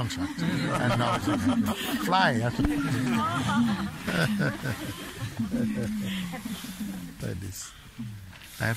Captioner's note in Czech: smích